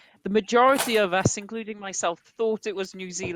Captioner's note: none